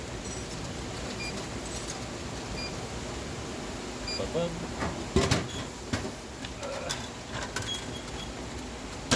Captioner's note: machine sounds